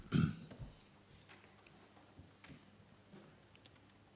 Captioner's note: long silence